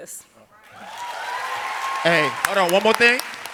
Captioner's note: audience applauding